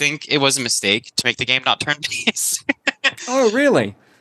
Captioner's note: laughs